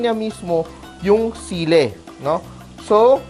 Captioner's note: sizzle